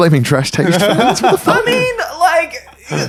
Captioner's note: laughing